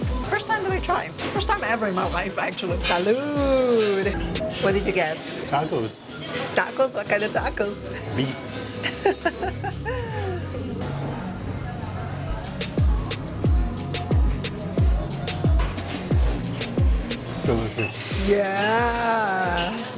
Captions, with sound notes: First time that I try, first time ever in my life, actually. Cheers! [in Spanish] What did you get? - Tacos. - Tacos? What kind of tacos? - Beef. - [laughs] - Delicious. - Yeah.